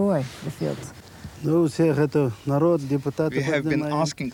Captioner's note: speaking foreign language